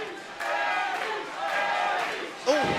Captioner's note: fans chanting